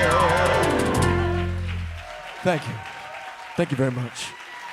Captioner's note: applause